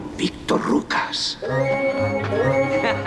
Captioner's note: laughing